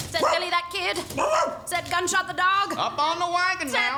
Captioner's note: barking